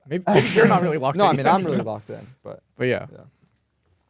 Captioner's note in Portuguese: risos